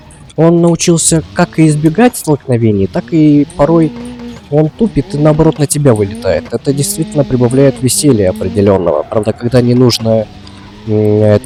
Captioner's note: traffic